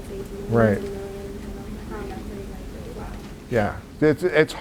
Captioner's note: white noise drowns out audience member